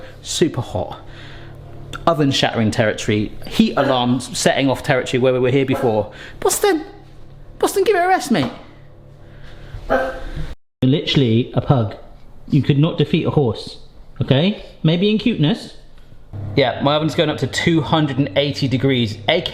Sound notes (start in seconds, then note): 5.7 pug barking